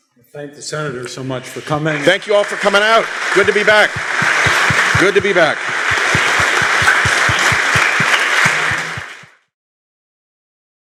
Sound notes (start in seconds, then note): 5.7 applause